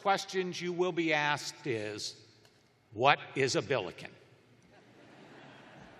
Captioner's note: laughter